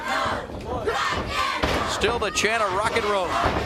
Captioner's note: crowd cheering